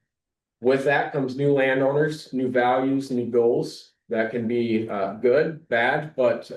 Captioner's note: snorts